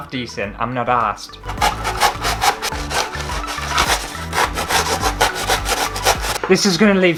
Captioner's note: knife Scratching